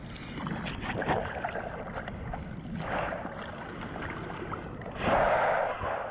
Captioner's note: wind